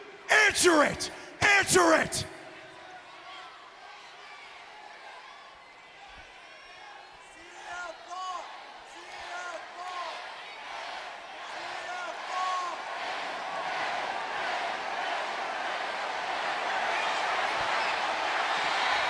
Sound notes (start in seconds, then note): 7.4 applause